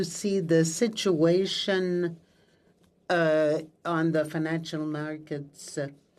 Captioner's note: speaking French